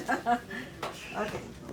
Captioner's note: chuckles